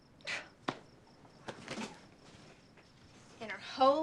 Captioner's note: Sarah scoffs